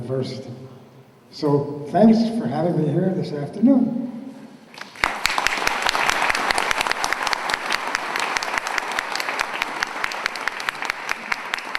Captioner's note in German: Beifall